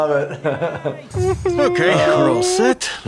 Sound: whimpering

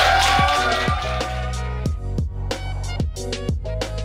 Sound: crowd cheering

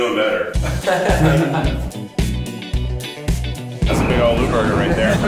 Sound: upbeat music; all laughing

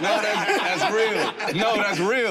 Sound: all laugh

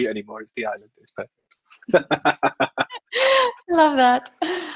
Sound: laughs

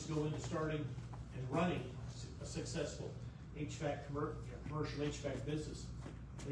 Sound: stammers

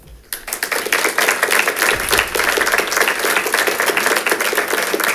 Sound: congregation claps

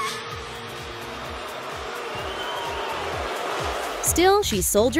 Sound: audience boos at Ashlee Simpson

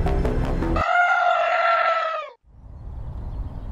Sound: man screams

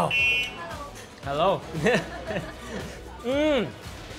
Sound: laughter

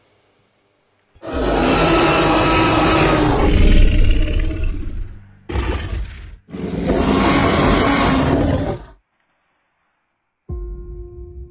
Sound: T-Rex roaring; soft music

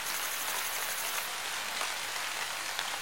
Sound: raining Sound

